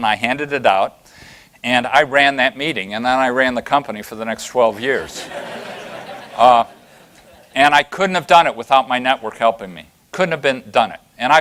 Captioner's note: laughter